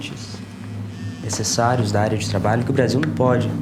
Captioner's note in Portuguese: Celular vibrando